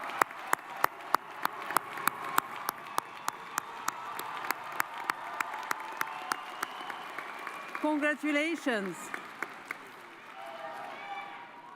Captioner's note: cheers and applause